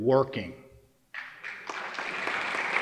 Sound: applause

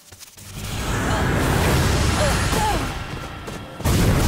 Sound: grunting

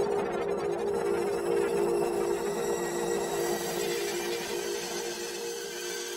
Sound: the granulated voice getting dense and high

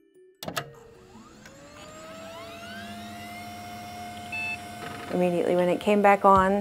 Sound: old computer start-up sounds

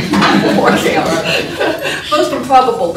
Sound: laughter

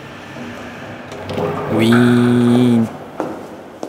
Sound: doors opening

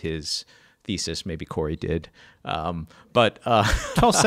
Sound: laughs

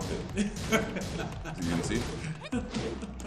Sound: laugh

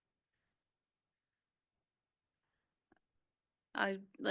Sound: audio cuts out

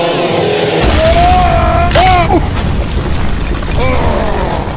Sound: screams in slow-motion; explosion; Peppino yells, grunts

